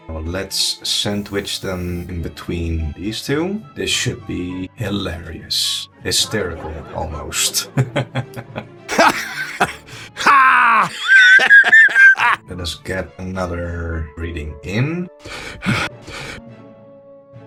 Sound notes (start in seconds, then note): 3.8 spliced Laughter; 8.9 laughs